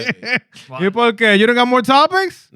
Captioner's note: non-english Speech